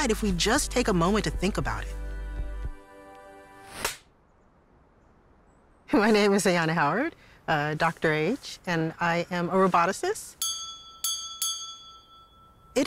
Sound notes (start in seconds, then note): 3.8 clapperboard clicks; 10.4 bell dings